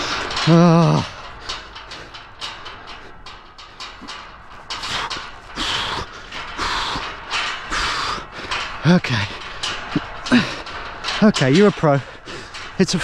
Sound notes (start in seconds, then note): 0.4 groans; 5.5 huffing